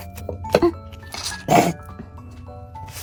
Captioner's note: burp